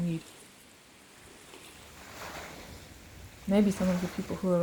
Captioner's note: sound of waves lapping gently